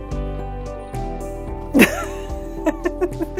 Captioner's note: laughs